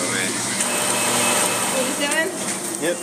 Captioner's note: cup fills with soda